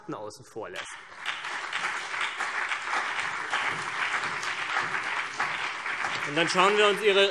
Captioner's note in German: Beifall CDU und BÜNDNIS 90/DIE GRÜNEN